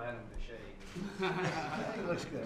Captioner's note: laughter